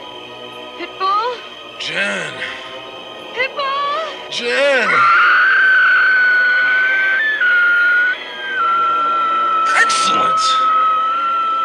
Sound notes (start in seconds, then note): 4.1 horrific shriek